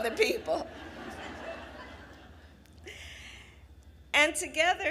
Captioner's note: laughter